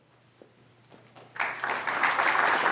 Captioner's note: applause